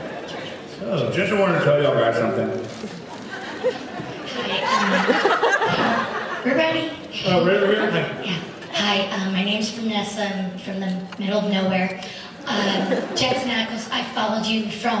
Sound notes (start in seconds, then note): 3.0 laughs